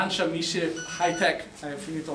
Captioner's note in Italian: squillo di sveglia telefonica